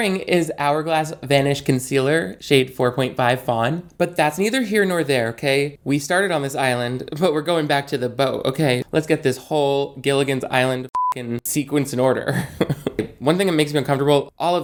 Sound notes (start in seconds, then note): 10.9 beep